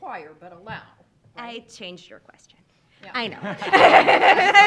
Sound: laughs

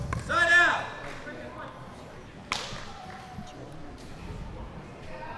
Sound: chattering

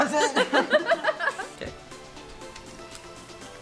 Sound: laughing

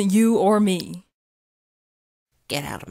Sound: silence

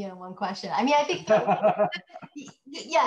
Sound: laughing

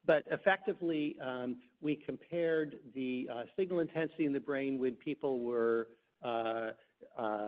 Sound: none

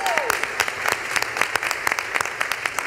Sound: applause

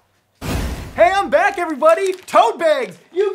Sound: teleportation swoosh!

